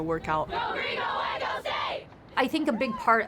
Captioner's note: team chanting